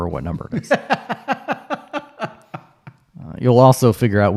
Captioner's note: laughs